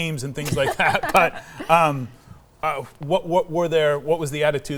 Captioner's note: chuckles